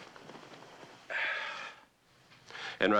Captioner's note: sighs